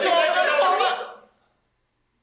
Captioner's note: overlapping exclamations